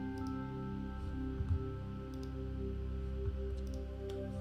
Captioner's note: mouse clicking